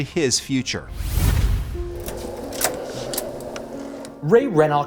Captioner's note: air swooshes